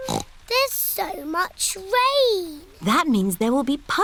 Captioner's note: snorts